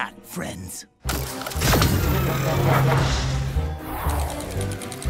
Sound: Ozzie's 'Willy WANK'-a dildo factory noises, LOL get it

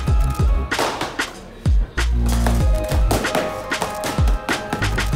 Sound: hitting noises

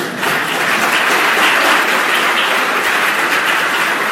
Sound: audience clapping

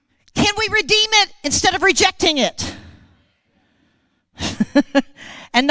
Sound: chuckling

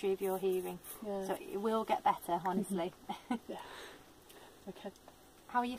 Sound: laughs

